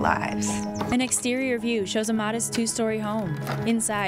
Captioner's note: clattering